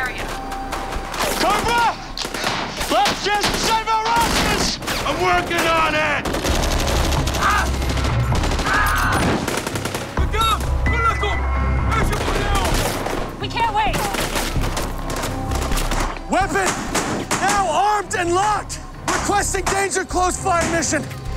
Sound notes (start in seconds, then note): 9.3 gunfire; 11.0 beep